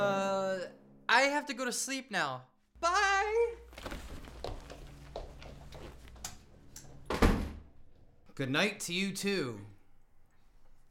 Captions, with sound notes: >> Ummm, I have to go to sleep now, bye. [DOOR CLOSES] >> Good night to you too.